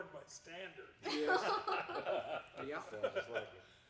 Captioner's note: laughing